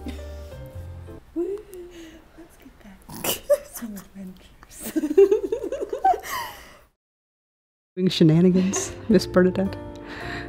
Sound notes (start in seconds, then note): 3.2 giggling